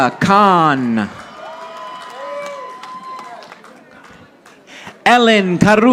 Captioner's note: audience applauding